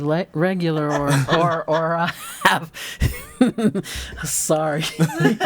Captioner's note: all laughing